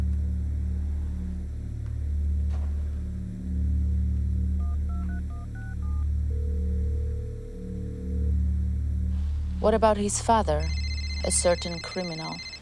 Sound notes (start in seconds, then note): 4.5 line ringing; 4.6 phone numbers beeping; 7.5 phone rings